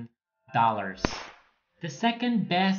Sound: screen change crashing

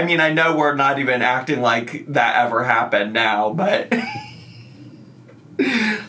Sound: laughs

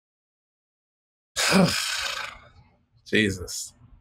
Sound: sighs

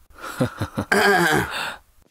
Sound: clears throat

